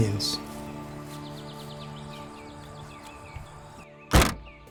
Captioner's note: music fades; birds chirping; trunk closing